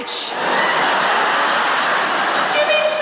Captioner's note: laughter